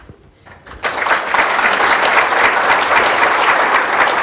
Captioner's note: applause